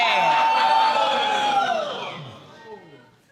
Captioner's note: audience exclaiming